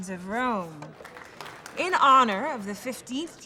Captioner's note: applause